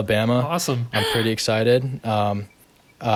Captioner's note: gasp